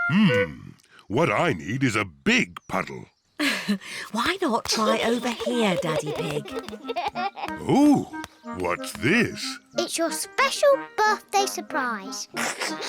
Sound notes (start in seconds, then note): 4.7 giggles; 4.7 chuckles; 12.3 giggles